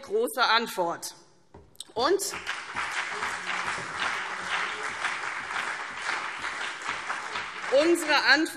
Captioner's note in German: Beifall CDU und BÜNDNIS 90/DIE GRÜNEN